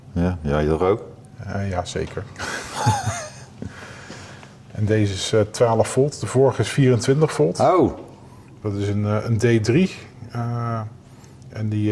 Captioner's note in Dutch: gelach